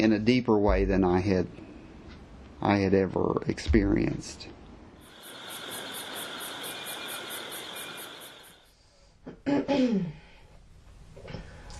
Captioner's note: crickets